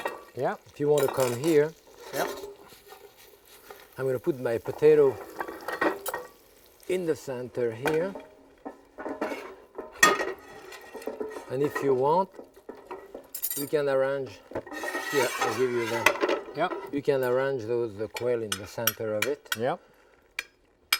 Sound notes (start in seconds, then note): 8.6 pan thudding; 14.1 pan scraping; 18.4 spoon clinking